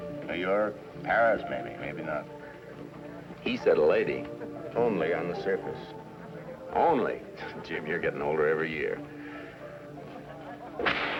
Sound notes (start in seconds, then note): 7.3 scoffs